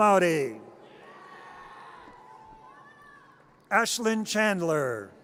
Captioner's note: audience cheers